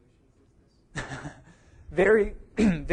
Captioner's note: laughs